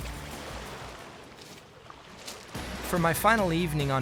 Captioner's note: water running